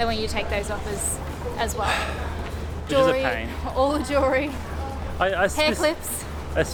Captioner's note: sighs: It's a pain